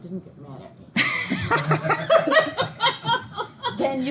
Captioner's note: students laugh